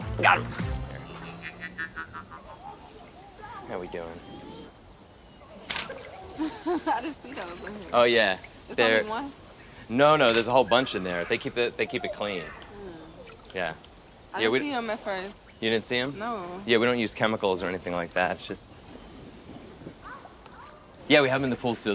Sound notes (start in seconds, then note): 6.3 chuckles